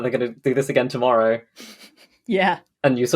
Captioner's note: laughs